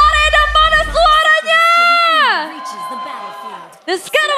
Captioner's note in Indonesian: berteriak